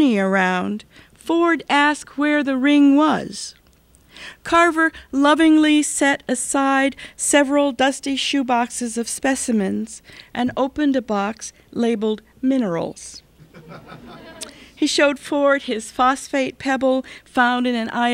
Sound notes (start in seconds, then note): 13.4 laughter